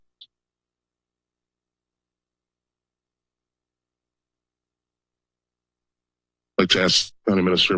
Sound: silence

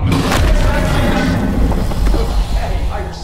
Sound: growling

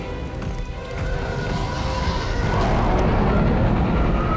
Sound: ship screeches overhead

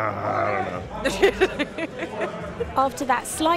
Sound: laughter

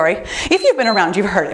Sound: timer beeps

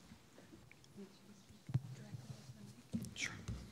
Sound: presenter faintly speaking

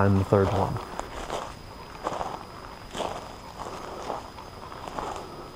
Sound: footsteps thudding

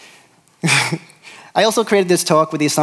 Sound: laughs

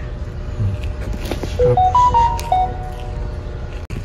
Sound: notification sound

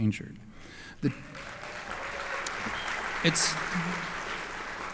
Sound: applause

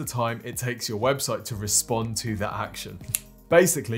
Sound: fingers click

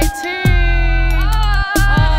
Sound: cheers

